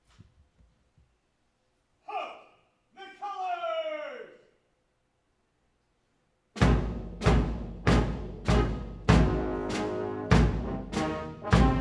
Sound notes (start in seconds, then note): 2.8 marine shouting orders; 6.5 drumming and brass music